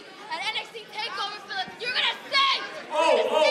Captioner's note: crowd chatter